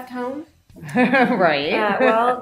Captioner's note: laughing